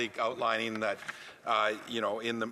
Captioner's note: speaking French